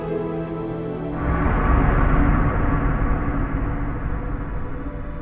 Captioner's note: wind whooshing